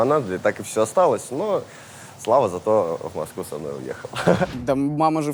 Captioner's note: laughs